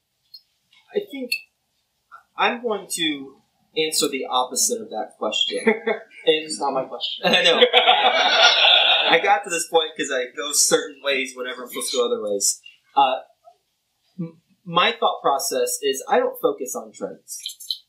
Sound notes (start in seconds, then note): 7.2 laughter